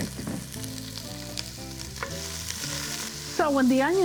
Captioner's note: pan sizzling